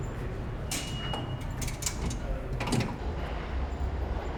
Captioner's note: turnstile beeps